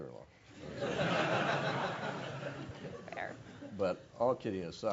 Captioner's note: laugh